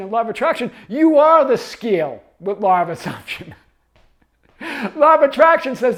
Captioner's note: chuckling